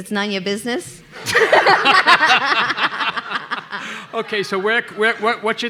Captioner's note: everybody laughing